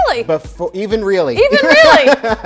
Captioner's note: laughs